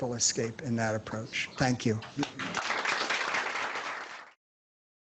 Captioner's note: applause